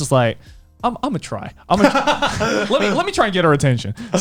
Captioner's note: laughs